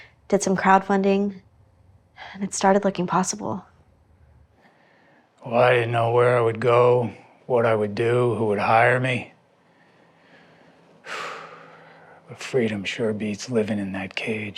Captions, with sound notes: Did some crowd funding. And it started looking possible. Well, I didn't know where I would go, what I would do, who would hire me. [Hardy sighs] But freedom sure beats living in that cage.